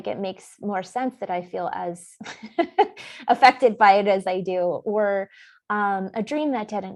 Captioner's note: laughs